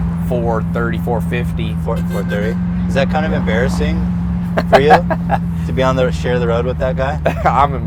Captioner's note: Tai laughs